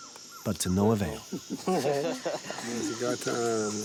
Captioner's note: laughter